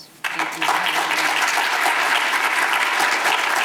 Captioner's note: audience applause